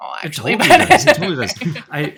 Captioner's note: laughing